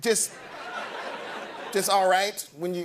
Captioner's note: laughter